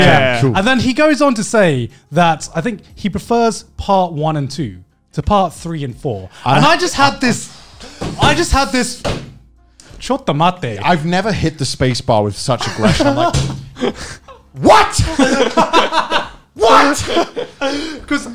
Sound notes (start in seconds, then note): 8.9 table thumps; 12.9 table thumps; 15.2 men laughing